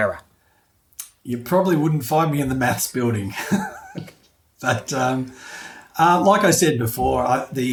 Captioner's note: laughing